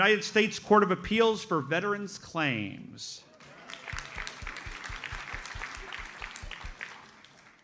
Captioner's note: audience applauds